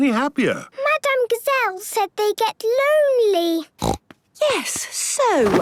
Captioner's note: snorting